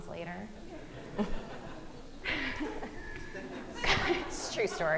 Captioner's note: audience laughing